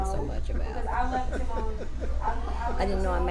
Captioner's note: laughs